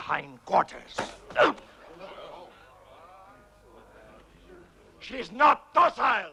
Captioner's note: chieftain grunts